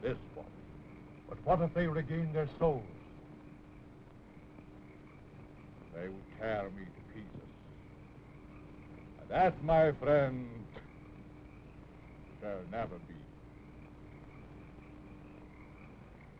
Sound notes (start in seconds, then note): none